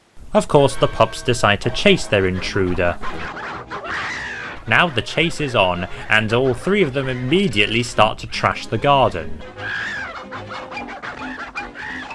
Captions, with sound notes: Of course the pups decide to chase their intruder. [squawks] Now the chase is on, and all three of them immediately start to trash the garden. [comical music]